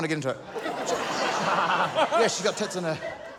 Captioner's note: laughter